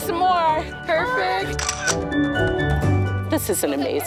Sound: camera shutter sound

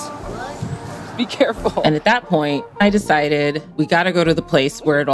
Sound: laughs

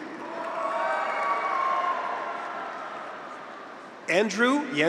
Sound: graduates cheer

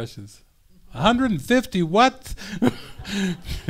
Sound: laughing

